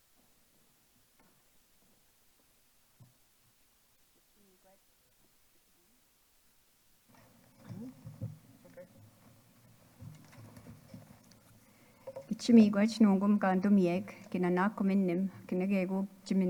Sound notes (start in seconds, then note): 4.8 speaking off microphone; 12.5 speaking in Anishinaabemowin